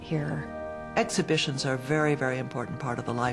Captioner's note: voiceover